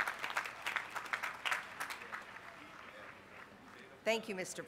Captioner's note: applause